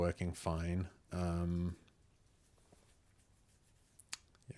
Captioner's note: silence